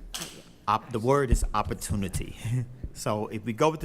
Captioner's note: whispering